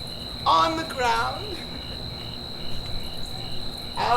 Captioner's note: laughs